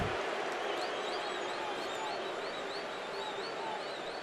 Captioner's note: booing